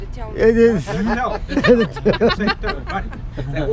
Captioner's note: laughing